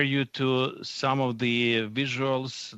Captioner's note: speaking French